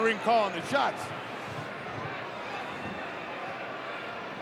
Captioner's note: crowd yelling